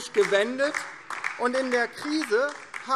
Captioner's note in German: Beifall DIE LINKE